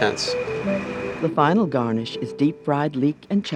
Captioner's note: voiceover